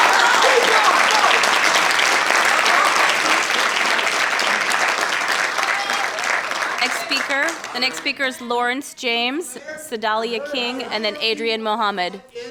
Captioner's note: applause